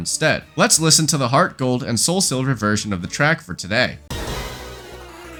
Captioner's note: bang